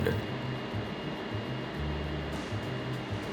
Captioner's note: burner humming